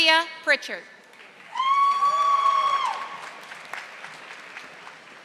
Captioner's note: audience applauding